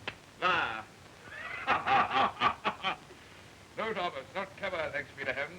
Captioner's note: laughing